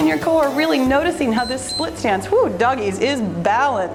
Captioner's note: timer beeps